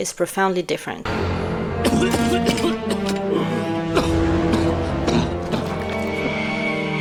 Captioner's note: Victor coffing